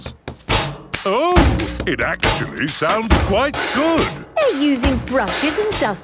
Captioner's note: rhythmic clanging